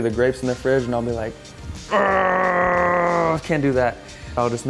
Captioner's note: groans